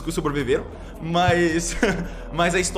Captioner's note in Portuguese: Risos